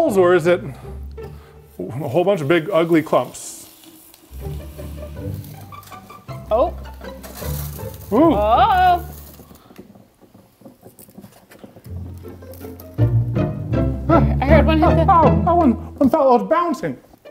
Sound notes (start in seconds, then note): 4.1 nitrogen bubbling; 4.3 upbeat music